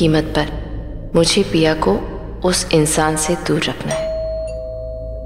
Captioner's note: Door bell rings